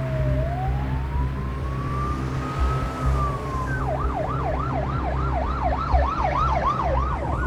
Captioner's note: sirens